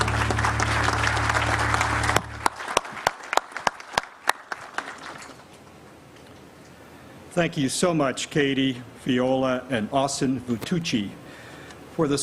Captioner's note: applause